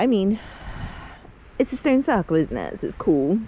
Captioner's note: sighs